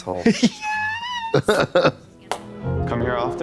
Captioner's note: Trixie snickers